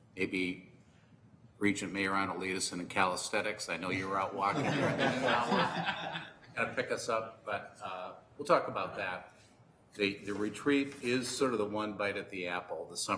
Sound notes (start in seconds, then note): 4.4 laughter